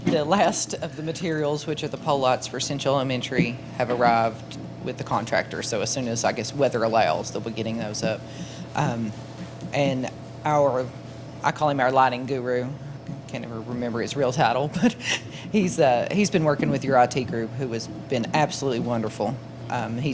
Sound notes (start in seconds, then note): 14.7 laughs